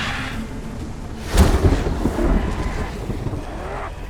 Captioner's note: thunder crashes